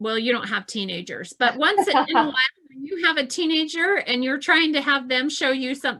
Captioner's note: laughs